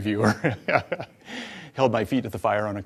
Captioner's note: laughs